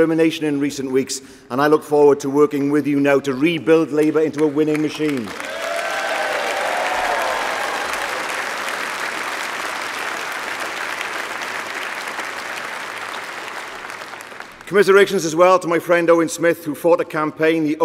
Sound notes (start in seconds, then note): 12.1 applause